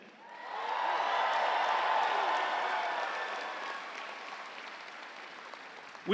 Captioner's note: audience cheering; audience applauds